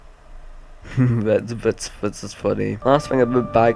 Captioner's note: giggle